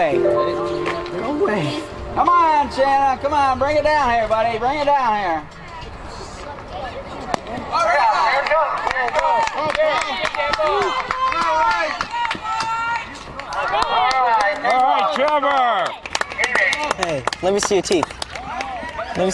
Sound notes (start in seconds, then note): 8.3 cheering